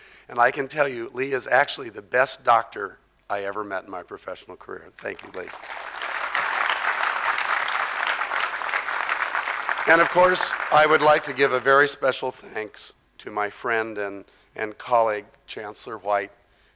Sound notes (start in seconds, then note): 5.2 crowd applause